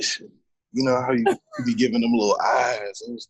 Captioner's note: laughs